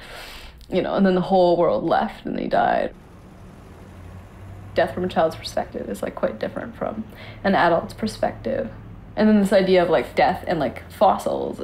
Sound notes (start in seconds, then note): none